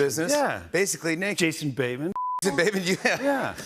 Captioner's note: laughter